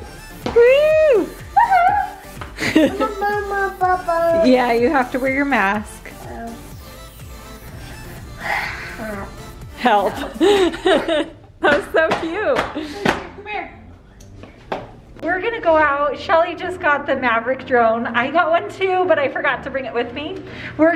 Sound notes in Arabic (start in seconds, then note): 0.5 ضجيج مُثار; 4.0 غمغمة; 10.0 يضحك